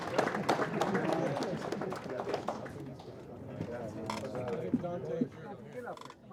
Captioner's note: applause